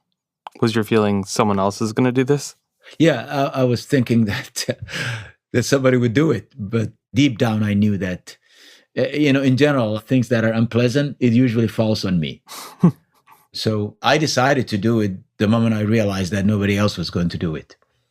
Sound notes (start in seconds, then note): 4.7 laughs; 12.5 laughs